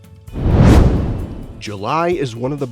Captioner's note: comet whooshing